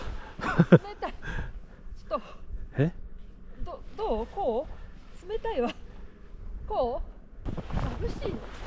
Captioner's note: haha